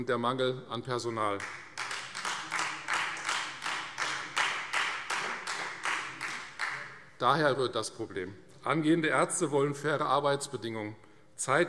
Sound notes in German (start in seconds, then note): 1.3 Beifall Freie Demokraten